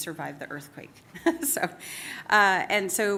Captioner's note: laughs